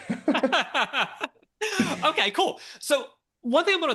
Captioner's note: both Laughing